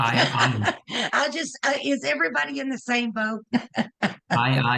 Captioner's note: laughs; laughs